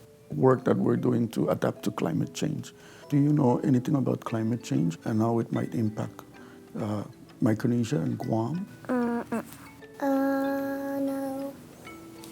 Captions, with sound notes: work that we are doing to adapt to climate change. Do you know anything about climate change and how it might impact Micronesia and Guam? [murmurs no] Uh, no.